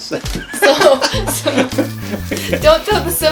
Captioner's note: laughing